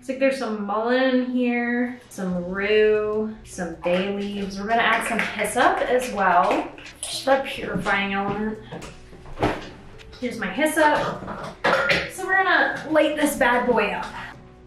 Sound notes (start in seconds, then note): 8.7 metal clanging; 14.4 gentle music